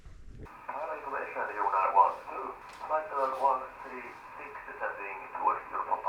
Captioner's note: Radio call from Beech 200